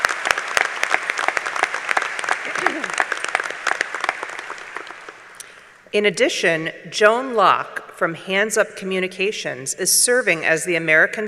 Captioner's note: applause